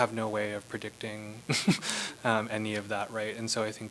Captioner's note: laughter